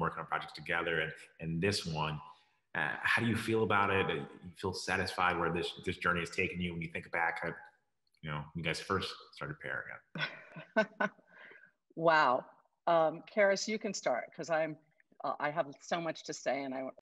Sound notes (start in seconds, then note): 9.4 chuckles